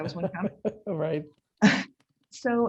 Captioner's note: laughing